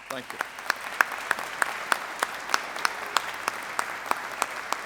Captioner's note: audience applauding